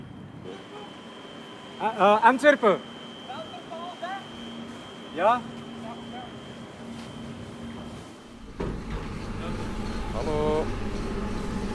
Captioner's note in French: Bruits d'embarquement sur le waterbus